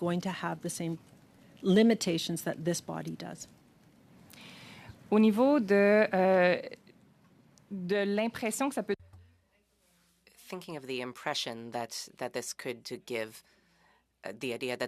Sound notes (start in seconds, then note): 8.6 speaking French